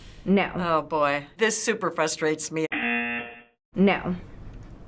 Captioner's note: buzzer